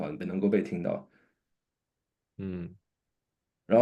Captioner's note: nonverbal grunt as interjection